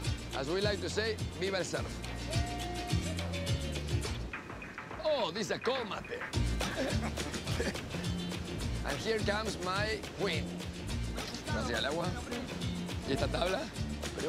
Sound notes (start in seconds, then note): 0.1 in English; 1.6 in Spanish; 4.8 in English; 11.2 in Spanish